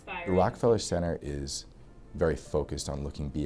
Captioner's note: voiceover